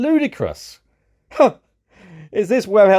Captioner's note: laughs